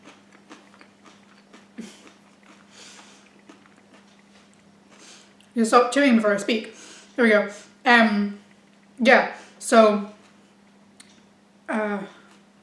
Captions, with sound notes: (more crunching) I'll stop chewing before I speak There we go. Um... yeah So uh... (brain cogs whirr)